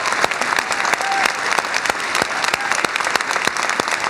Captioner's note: cheers and applause